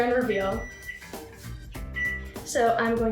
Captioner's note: microwave beeps